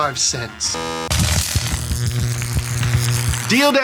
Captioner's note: buzzer sounds; electricity buzzes